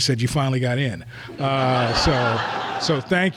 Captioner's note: laughter